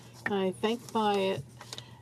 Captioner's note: speaking in french